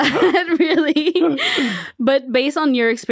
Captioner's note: everyone laughs